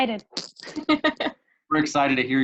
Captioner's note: giggling lightly